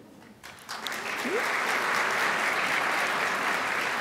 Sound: crowd applauds

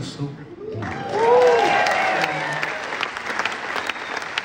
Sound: crowd cheering

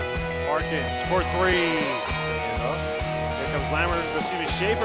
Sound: whistle blown

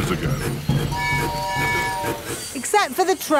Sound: train tooting

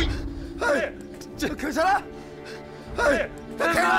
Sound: somebody moans in pain

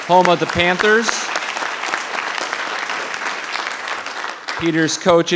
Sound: audience applauding

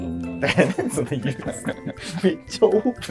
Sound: laughing

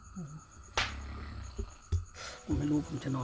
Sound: snores

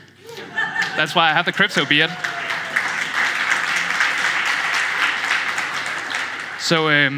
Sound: applause

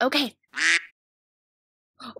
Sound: quack

